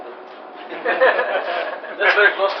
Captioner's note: laughter